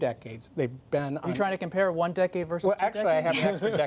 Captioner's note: laughter